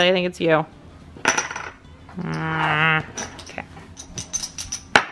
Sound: poker chips jingles

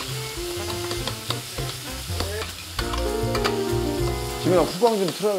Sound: steaming

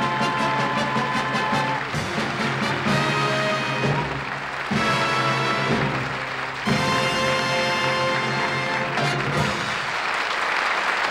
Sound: applause

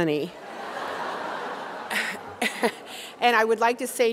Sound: audience laughing

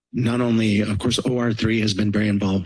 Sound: none

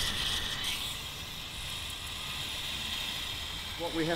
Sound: hissing steam

